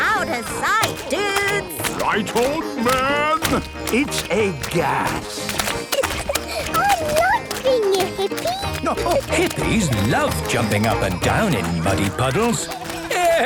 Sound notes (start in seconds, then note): 6.1 giggling